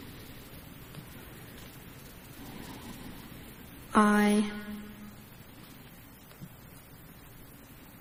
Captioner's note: silence